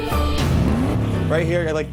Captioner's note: car engine revs